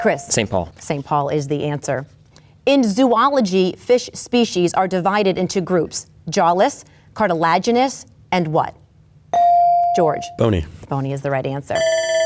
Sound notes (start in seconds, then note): 9.4 bell dings